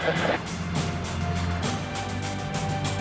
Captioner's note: laughter